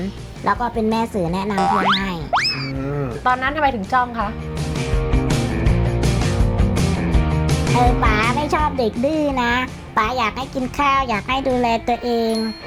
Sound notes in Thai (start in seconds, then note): 2.2 เสียงเอฟเฟกต์